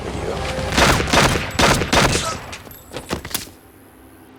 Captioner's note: gun fires